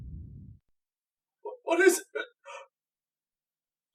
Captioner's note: gasps